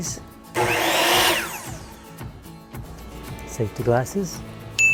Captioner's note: saw whirs